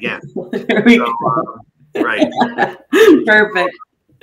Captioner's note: laughing